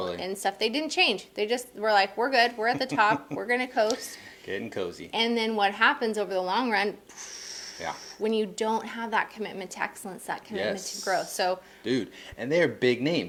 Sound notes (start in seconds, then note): 4.7 laughing